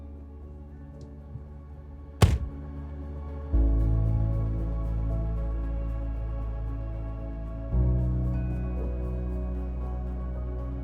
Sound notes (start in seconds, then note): 2.2 door banging; 3.6 soothing music continues